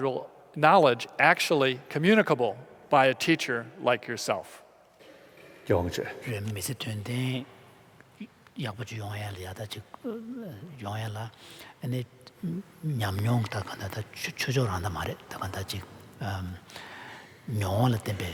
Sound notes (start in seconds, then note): 6.1 foreign Language